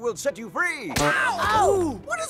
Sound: punch

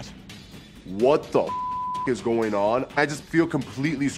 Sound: beep

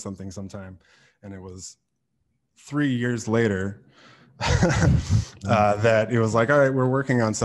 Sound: laughs

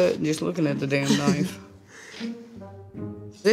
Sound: laughs

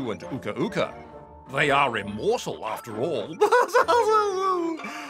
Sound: laughs

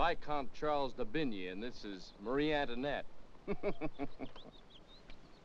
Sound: chuckles

